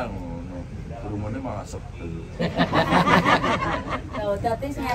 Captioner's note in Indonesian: tertawa